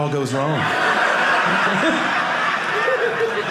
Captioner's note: audience laughing